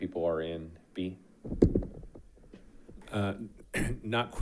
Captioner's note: mic thuds; coughs